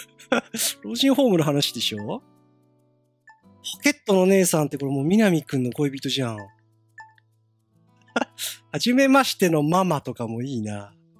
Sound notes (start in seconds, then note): 8.1 giggle